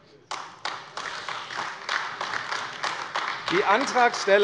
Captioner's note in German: Beifall AfD